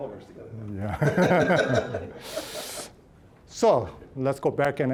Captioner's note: all laughing